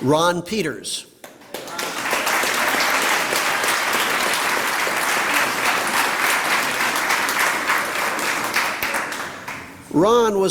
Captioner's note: applause